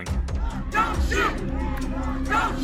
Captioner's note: crowd